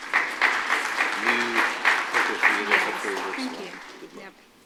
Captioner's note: applause